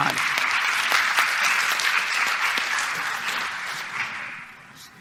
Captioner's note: audience clapping